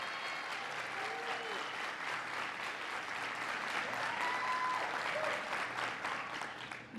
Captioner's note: applause